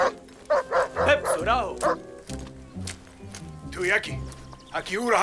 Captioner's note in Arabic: الصوت المنطوق البدوي